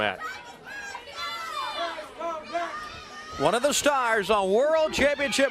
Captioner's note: crowd chatter